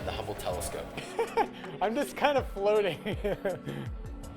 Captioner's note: laughs